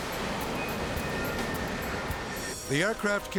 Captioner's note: energetic music; jet engine roaring